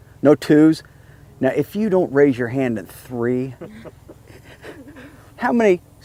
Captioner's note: laughs